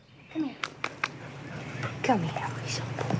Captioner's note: claps